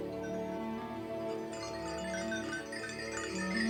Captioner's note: bells ringing